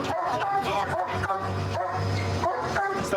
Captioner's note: barking